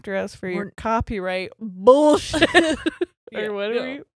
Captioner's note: both laughing